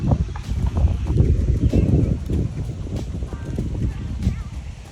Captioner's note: air whooshing